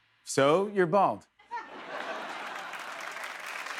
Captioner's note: laughter; applause